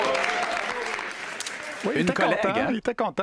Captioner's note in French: applaudissements